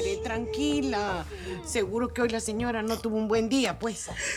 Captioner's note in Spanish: Sollozos